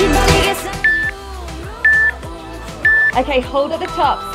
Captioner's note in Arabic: صوت المؤقت